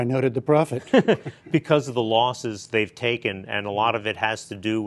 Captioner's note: laughter